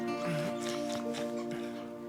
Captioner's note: groan